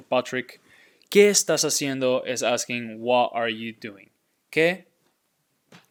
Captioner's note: speaking in Spanish